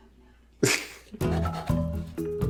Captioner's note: snickers